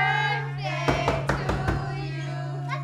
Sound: knocking on door

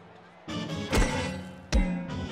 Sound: clanging

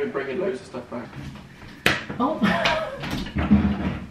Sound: hand smacks; laughing; suitcases clattering

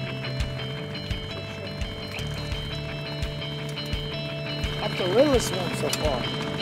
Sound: fish splashing

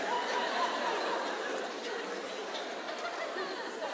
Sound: laughter

